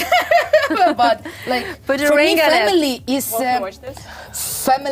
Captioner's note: laughing